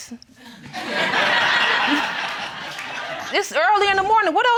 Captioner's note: crowd laughing